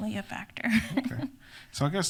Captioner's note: laughs